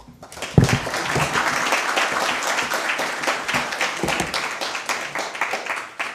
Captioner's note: applause